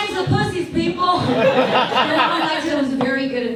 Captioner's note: audience laughs